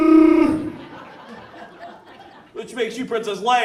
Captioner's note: audience laughs